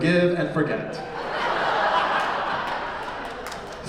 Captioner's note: laughter